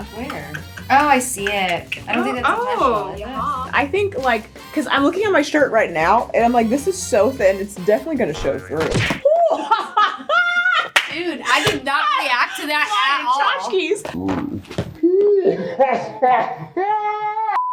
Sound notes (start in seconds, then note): 8.7 cartoon smack; 9.2 laughter; 15.0 slowed down laughter